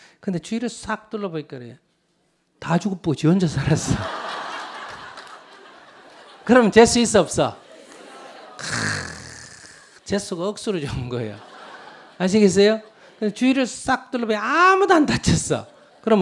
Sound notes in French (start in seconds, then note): 3.8 rire du public